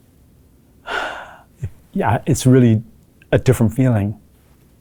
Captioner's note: sighs